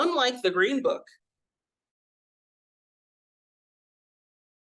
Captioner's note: audio cuts out